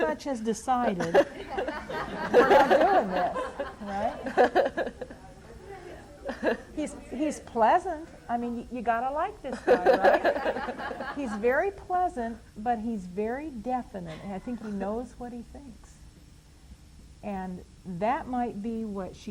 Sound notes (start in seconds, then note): 3.7 general laughter; 9.5 laughter